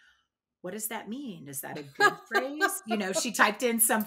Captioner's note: laughs